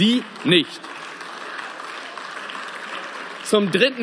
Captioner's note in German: Beifall